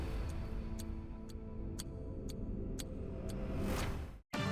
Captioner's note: clock ticking; gentle music; bright music